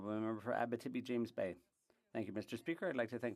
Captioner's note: speaking French